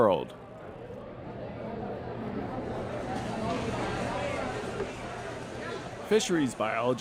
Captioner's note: background chatter